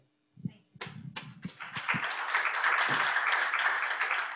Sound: clapping

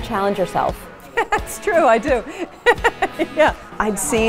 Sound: laughs

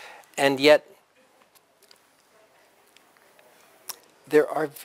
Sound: pause

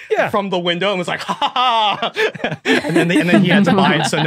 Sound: group chuckling

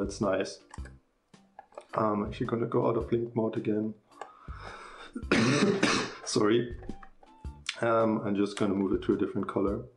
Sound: cough

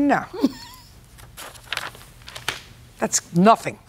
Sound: chuckles

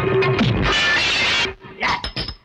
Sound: glass Breakage

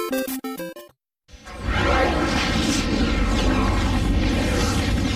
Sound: dramatic twister and helicopter noises

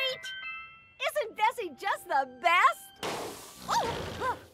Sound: popping, air leaking; both gasp

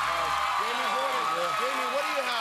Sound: cheers and applause

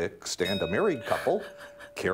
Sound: bell ringing

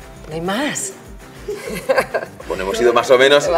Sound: laughs

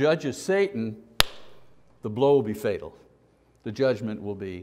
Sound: smack

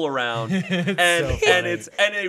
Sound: chuckling

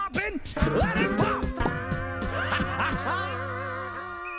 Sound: pops cheek, laughs

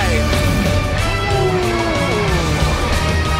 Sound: roaring

